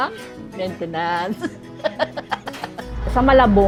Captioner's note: laughs